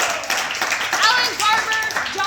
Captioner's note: applause